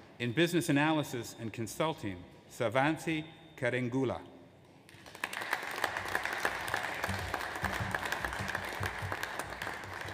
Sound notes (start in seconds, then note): 5.0 audience applauds